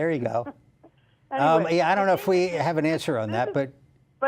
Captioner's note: laughter